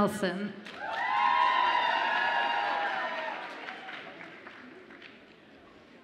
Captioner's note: audience applauds and cheers